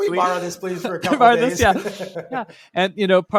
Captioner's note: laughing